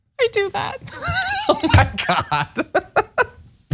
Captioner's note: laugh